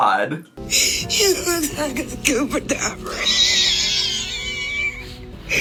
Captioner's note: laughs; wheezing